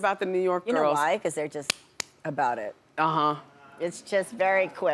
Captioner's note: slaps hands